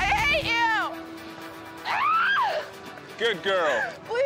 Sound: screaming

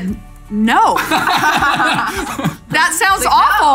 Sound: laughing

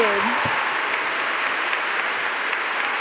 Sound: applause

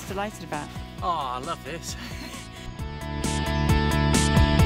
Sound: laughs

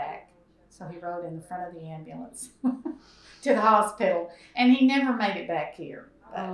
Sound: laughs

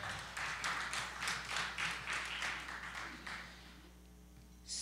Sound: applause

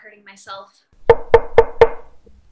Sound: knocking

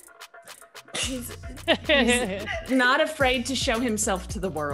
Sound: laugh

